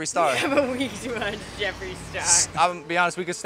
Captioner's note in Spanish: Con risa